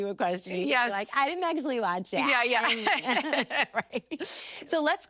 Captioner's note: laughing